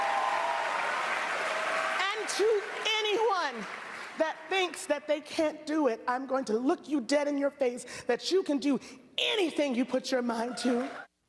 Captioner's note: applause